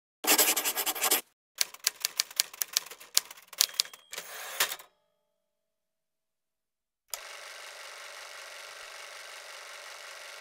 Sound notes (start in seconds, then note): 0.2 pencil scribbling; 1.6 typewriter; 7.2 film reel whirring